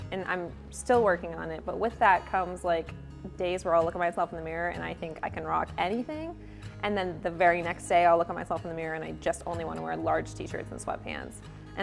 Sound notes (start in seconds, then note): none